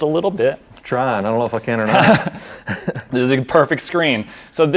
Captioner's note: chuckles